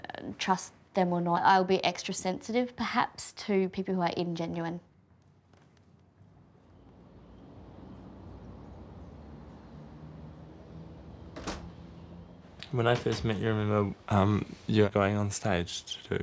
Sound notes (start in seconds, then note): 7.3 wind blowing; 11.2 door closing